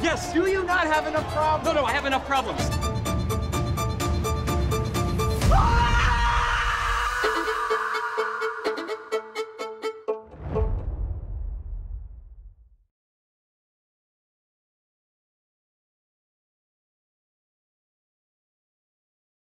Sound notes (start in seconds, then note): 5.5 screaming